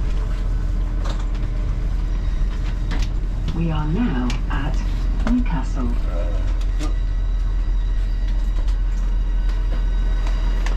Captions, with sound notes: - [automated voice] We are now at Newcastle.